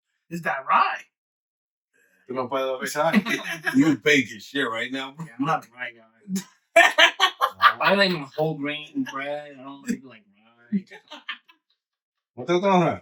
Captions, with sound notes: Is that right? You gonna play that one every time? You're baking shit right now bro. Yeah, I'm not a right guy. (Laughing) I like whole grain bread. I don't like rice. (Laughing) What the fuck?